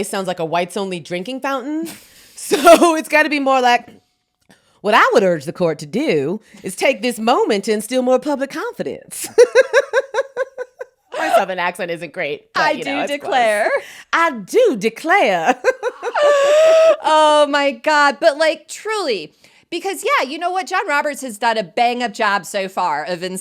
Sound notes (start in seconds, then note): 2.7 both laughing; 9.2 both laughing; 15.4 both laughing